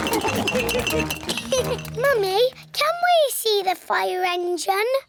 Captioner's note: laughs; all laugh; giggles